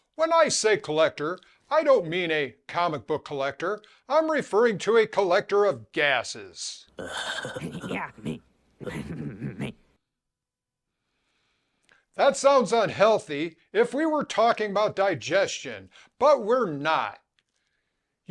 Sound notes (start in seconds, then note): 7.0 snickering